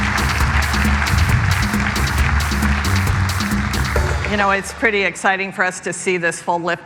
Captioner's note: applause